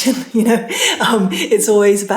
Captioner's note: laughing